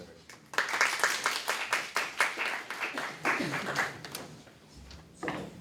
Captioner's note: applause